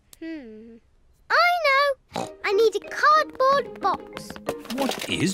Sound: snorts

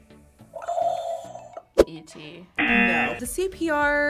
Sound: buzzer; buzzer rings

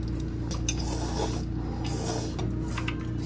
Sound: returns to slurping up noodles; slurping over there too

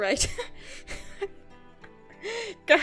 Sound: laughs

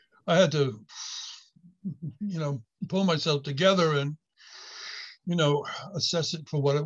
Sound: inhales

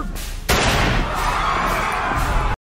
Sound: gunshot

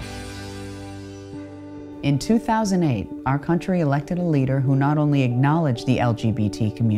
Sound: Jane Lynch Voice Over

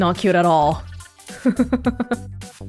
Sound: chuckles

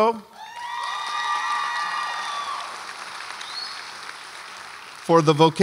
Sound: audience applauds and cheers

